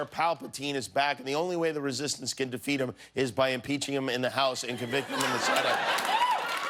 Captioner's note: laughter; cheers and applause